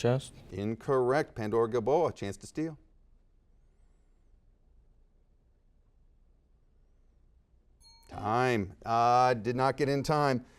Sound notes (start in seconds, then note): 4.4 silence; 7.8 dings